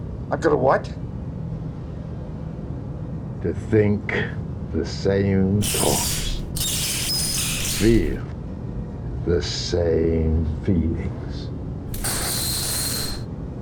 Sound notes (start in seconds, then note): 5.6 indistinct rat noises; 10.6 indistinct rat noises